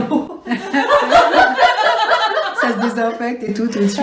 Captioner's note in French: Rires